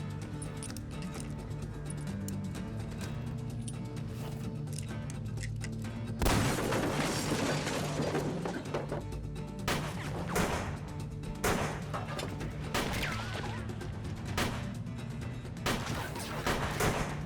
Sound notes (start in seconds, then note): 6.2 gunshot banging; 9.6 gunshots banging